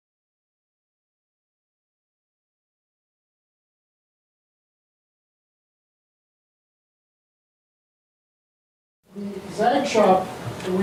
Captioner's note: silence